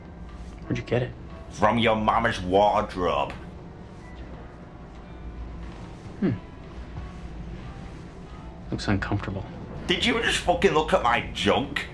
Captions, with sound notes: "Where'd you get it?" From your mama's wardrobe. *in a mean voice* "hmm" "looks uncomfortable" Did you just fucking look at my junk? *in mean voice*